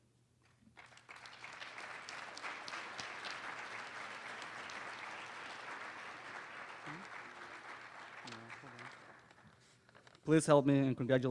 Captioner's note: applause